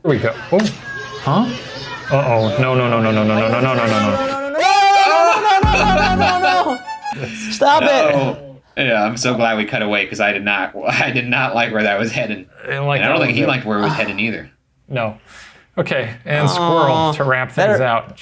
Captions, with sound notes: - Here we go... ooh. - Oh? - Uh oh, no, no, no, no, no, no, no, no, no. (all scream) - Stop it! - Yeah, I'm so glad we cut away 'cause I did not like where that was heading, and I don't think he liked where it was heading either. - No, okay and squirrel to ramp things out.